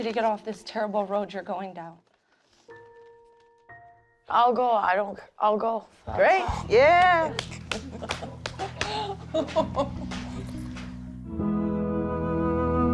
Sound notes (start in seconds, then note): 6.2 laughs; 10.9 uplifting music playing